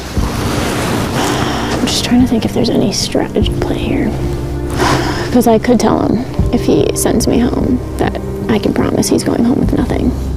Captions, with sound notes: I'm just trying to think if there's any strategy play here. [sighs] Because I could tell him if he sends me home, that I can promise he's going home with nothing.